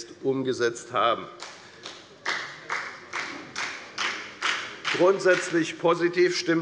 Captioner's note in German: Beifall bei der FDP